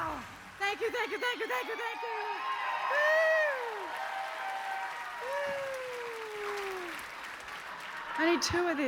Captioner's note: cheers and applause